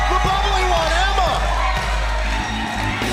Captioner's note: crowd cheering